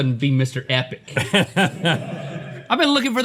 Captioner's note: laughs